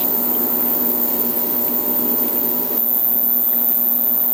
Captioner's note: bubbling